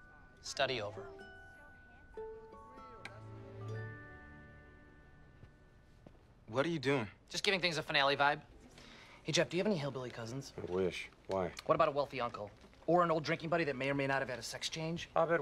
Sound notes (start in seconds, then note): none